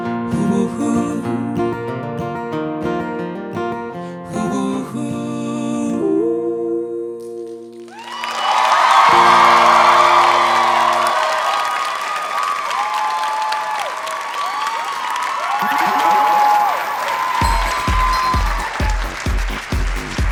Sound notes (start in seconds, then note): 8.1 audience applauding; 8.1 audience cheering; 17.4 upbeat music